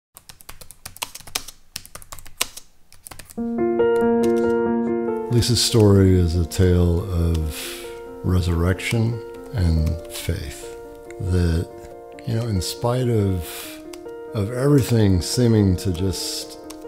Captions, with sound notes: (keys typing) (gentle piano keys) - Lisa's story is a tale of resurrection and faith. That you know, in spite of, of everything seeming to just